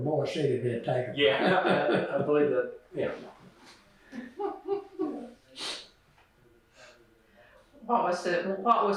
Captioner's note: laughter